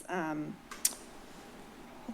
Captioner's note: clucks